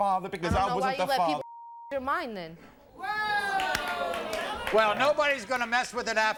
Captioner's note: beep